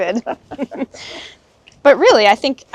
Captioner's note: both chuckling